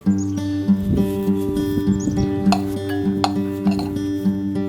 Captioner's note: birds singing, kitchen sounds